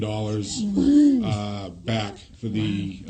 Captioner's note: exclaims